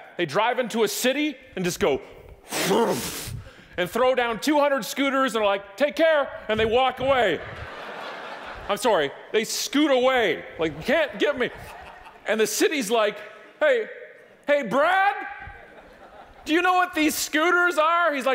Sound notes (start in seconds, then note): 7.3 audience laughing